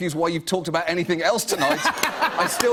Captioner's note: laughter